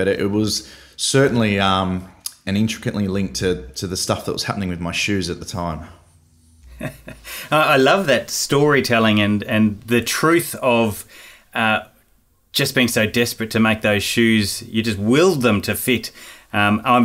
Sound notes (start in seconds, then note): 6.6 laughing